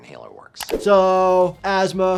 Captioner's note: mouse clicking